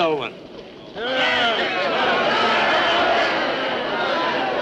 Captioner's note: riotous crowd